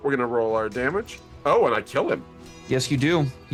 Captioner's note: none